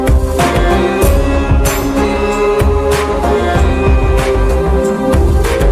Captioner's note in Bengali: ঘণ্টা